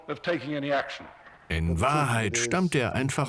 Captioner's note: voiceover